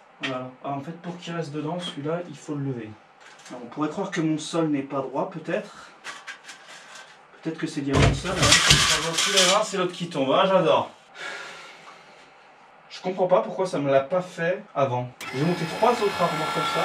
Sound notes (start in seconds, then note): 11.4 sighs